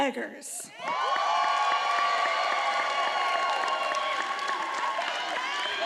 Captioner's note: attendees applauding and cheering